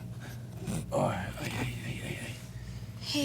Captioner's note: moans